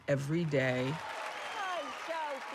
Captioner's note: applause